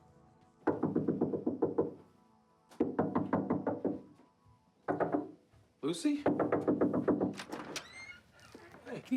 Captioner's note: door knocking